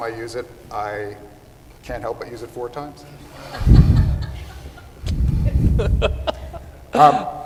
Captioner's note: laughter